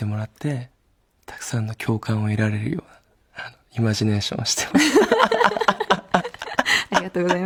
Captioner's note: laughs